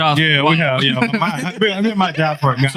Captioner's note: laughing